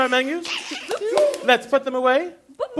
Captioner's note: clap, vocalization